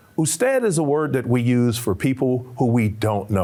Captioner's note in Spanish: Señor hablando en un idioma extranjero